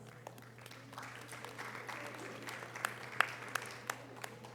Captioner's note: audience applause